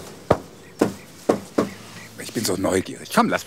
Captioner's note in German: Klopfen